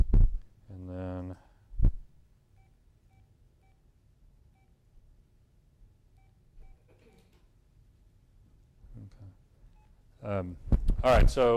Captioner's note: phone beeps